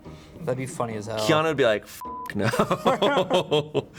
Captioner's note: beep; and crew member laughing